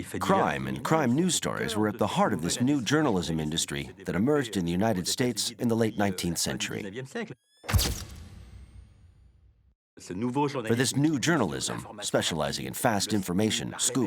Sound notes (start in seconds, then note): 7.7 camera flashing